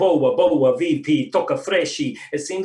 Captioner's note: Swahili